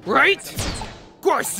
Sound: bang and whistle

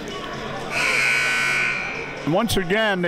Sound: buzzer sounding

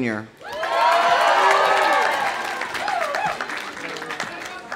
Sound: audience cheering; audience applauding

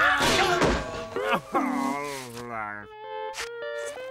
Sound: groaning

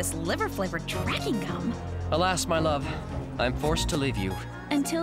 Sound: none

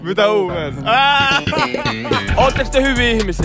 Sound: laughter

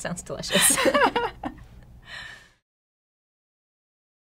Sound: both women laugh

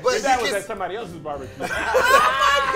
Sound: laughing

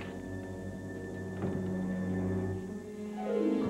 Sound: door opens and closes

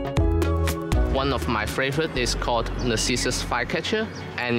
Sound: birds

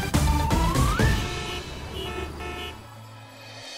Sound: traffic noise

